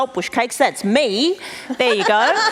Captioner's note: laughs